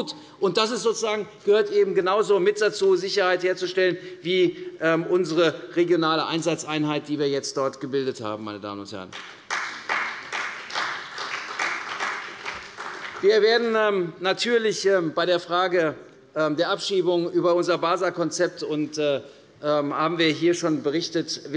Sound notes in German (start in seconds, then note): 9.1 Beifall bei der CDU und dem BÜNDNIS 90/DIE GRÜNEN